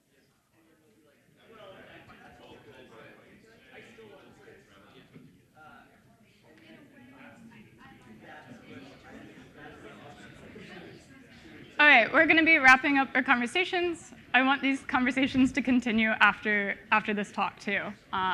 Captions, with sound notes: (group chattering) All right, we're gonna be wrapping up our conversations. I want these conversations to continue after this talk too.